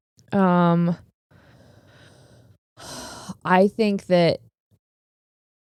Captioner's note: exhaling